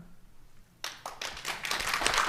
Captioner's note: applause